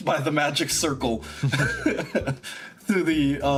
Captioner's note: tiny Laugh